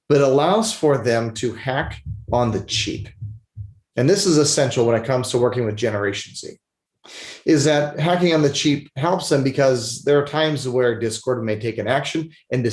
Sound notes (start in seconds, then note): 7.1 sniffles